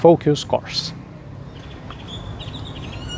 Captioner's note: birds chirping